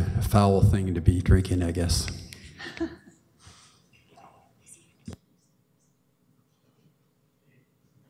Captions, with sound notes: foul thing to be drinking, I guess. [woman chuckles]